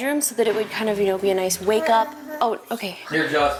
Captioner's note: murmurs